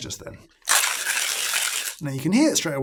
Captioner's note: coffee grinding